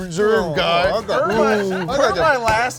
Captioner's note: woman laughing; table banging